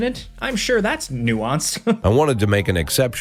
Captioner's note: chuckles